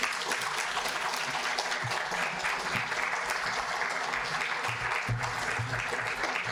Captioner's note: audience applauding